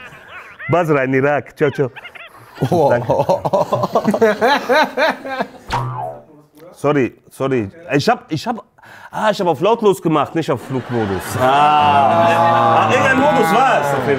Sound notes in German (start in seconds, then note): 3.0 Lachen